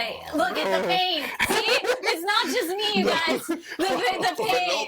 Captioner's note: laughing